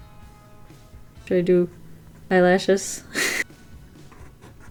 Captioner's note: laughs